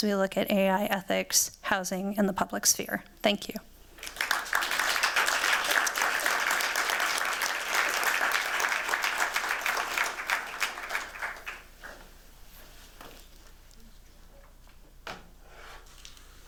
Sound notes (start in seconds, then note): 4.0 clapping